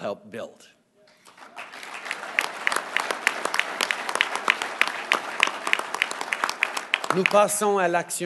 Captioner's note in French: Applaudissements